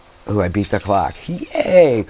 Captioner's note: bells ringing